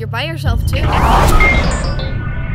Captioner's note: zap